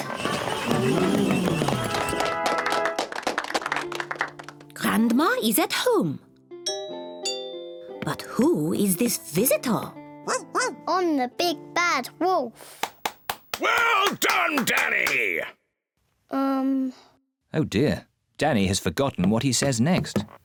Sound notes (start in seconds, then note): 0.0 all gasp, applaud; 6.6 doorbell rings; 10.2 barks; 20.2 whispers